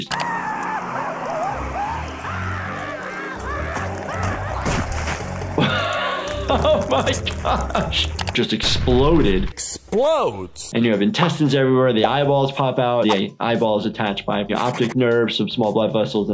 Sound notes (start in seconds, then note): 0.0 Handy screaming; 0.0 tires screeching; 3.5 guts squelching; 5.5 laughing; 7.4 guts squelching